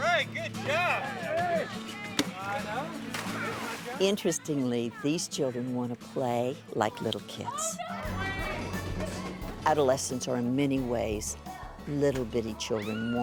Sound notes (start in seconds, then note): 2.1 splash